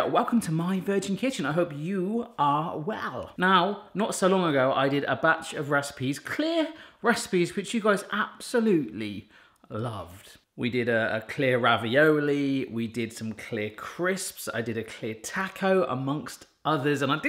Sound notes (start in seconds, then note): none